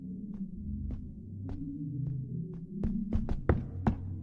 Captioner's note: footsteps